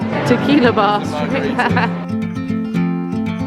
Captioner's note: chuckling; gentle guitar music